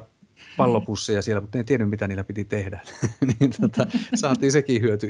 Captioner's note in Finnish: naurahtaa